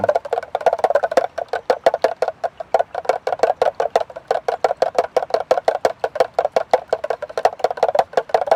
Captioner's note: spoon clattering